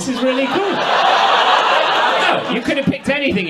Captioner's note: audience laughs